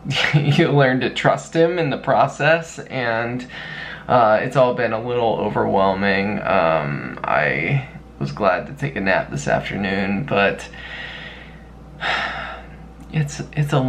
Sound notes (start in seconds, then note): 12.0 heavy sigh